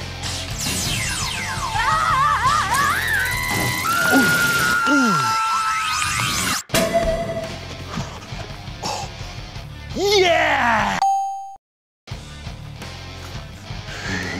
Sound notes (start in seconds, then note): 1.7 bikini girl screams; 6.7 donut chimes; 11.0 check mark dings; 12.2 intense music; 14.0 laughs mischievously